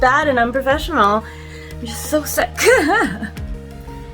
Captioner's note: laughs